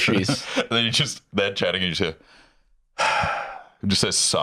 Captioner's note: sighs